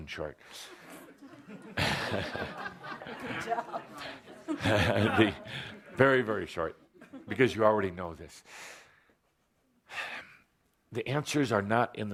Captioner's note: laughter